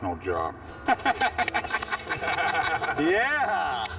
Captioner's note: laughter